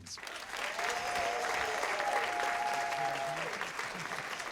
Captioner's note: cheers and applause